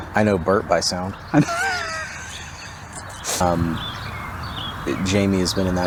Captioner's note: laughing cheerfully